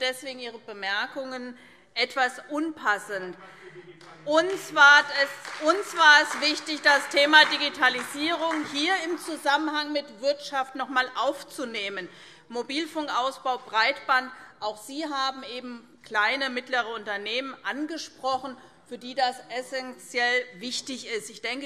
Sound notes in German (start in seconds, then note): 4.0 Beifall SPD